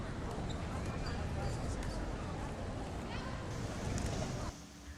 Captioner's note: city noise, in the background, fades